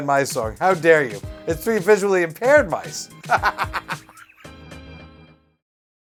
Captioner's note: laughs